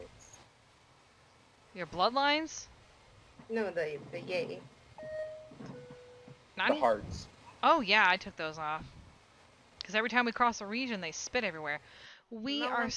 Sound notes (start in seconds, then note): 5.0 airplane Beeping Sound